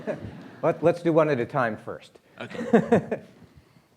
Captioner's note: audience laughter; laughs